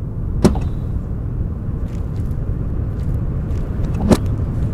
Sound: car door opening; car door closing

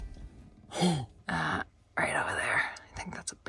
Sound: whispering

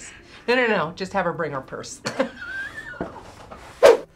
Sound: laughs

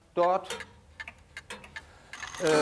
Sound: ticking, clock ticking

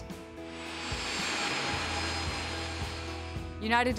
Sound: plane taking off

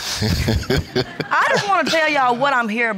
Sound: laughs

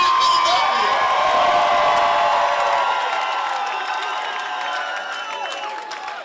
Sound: crowd cheering and clapping

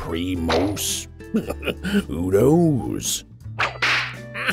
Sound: laughing

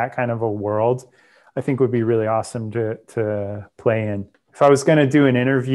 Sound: breath

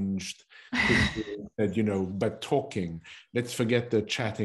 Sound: laughter

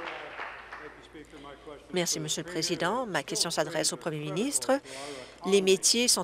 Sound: applause

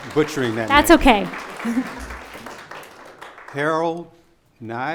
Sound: audience applause

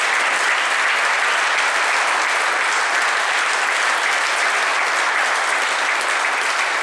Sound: applause

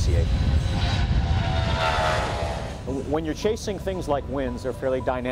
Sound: engine Sounds

